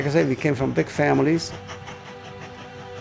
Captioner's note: train chugging